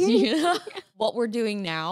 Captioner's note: laughs